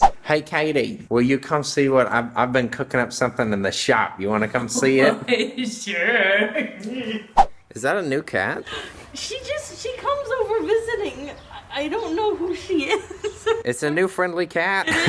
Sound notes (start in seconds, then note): 4.6 laughs lightly; 7.4 whoosh; 11.1 laughs lightly; 12.6 chuckles